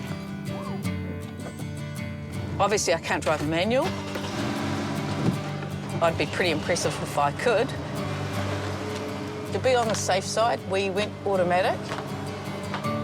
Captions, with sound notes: - Obviously, I can't drive a manual. (ENGINE REVS) I'd be pretty impressive if I could. To be on the safe side, we went automatic.